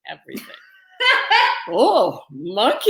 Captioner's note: laughing